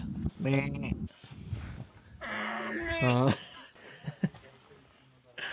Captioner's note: laugh